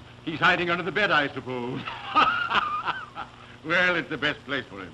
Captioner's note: laughs